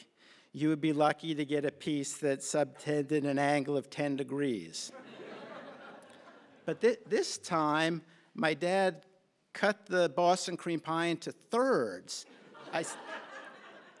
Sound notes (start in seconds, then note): 4.8 laughter